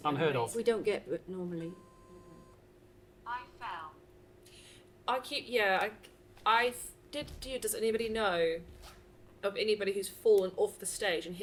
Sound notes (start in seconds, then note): 1.6 device beeps